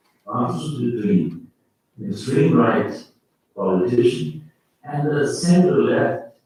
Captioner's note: faintly speaking